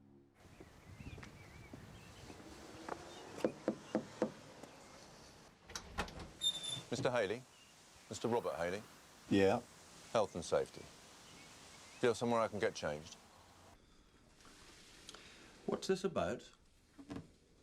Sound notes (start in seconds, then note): 3.4 health inspector knocking